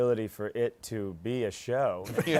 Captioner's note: laughter